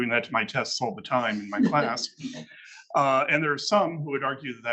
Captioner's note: attendees laughing